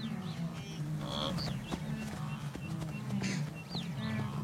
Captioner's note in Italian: versi di animali